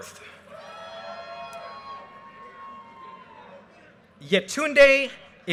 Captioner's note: audience cheers and applause